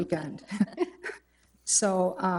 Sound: trustees chuckle

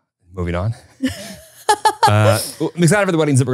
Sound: both laughing

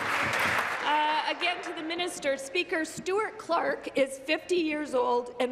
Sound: applause

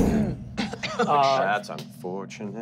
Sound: thumping

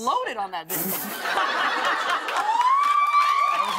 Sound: laughter and applause; cheers and applause

